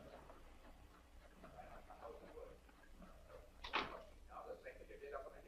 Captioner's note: muffled chatter